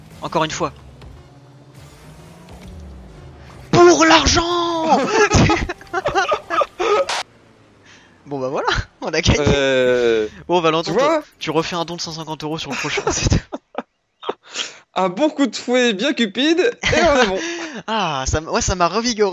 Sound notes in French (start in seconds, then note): 4.8 rires; 12.7 rires